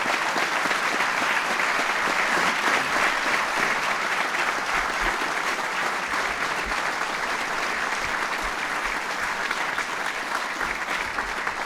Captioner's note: applause